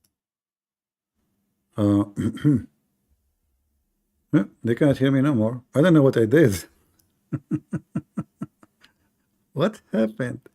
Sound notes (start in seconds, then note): 7.3 Ketawa